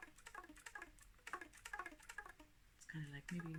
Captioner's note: tapping sounds